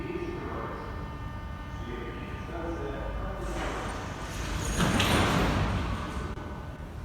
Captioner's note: closing doors